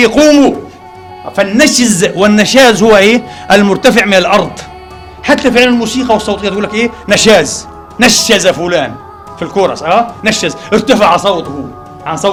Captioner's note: in a chorus